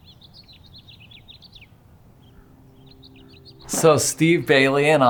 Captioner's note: birds chirping